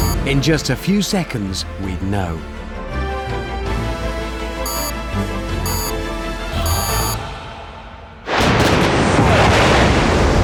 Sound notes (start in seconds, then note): 5.6 three beeps